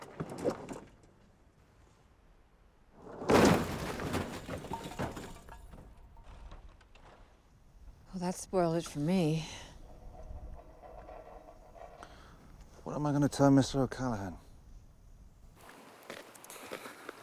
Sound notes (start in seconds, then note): 3.2 loud thunk; 4.6 objects clattering